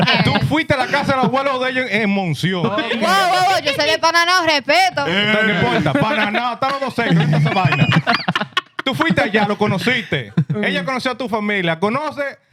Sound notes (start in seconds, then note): 0.8 laughing; 0.8 speaking Foreign Language